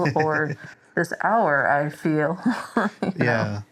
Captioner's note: laughs